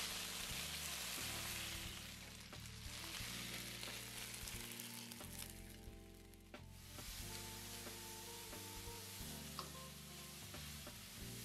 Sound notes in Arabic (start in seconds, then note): 7.0 أزيز طعام